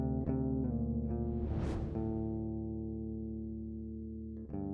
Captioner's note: air whooshing